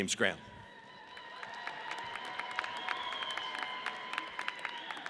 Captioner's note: audience cheers